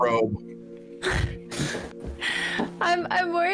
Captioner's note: laugh-gasp